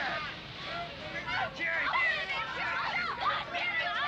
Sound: all yelling

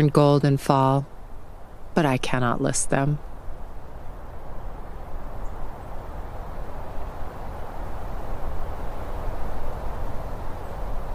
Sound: constant whooshing roar of wind

